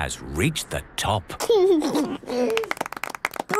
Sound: George giggles; clapping

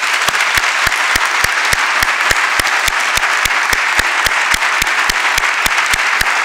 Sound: applause

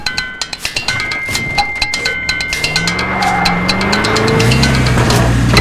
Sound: percussive music; engine roaring

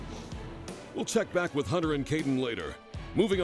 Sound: voiceover

